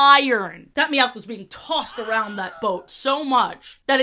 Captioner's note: wilhelm scream sfx